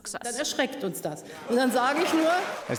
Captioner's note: applause